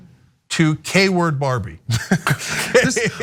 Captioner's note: laugh